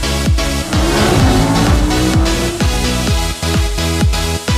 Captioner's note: engine revving